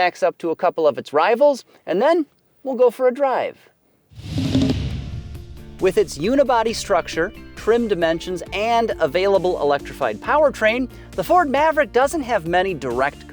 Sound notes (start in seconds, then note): 4.2 electronic trilling; 5.5 gentle music